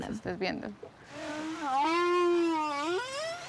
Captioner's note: whale singing